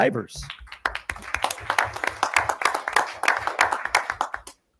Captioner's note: audience applauding